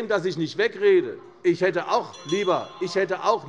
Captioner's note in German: Unruhe - Glockenzeichen des Präsidenten